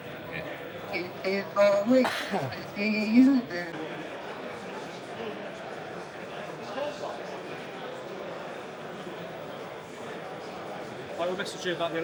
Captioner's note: mumbling